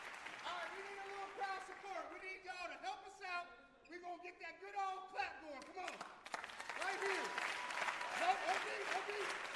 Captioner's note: cheers and applause